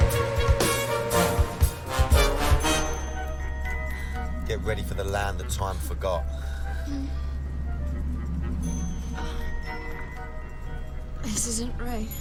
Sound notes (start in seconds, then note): 6.8 moaning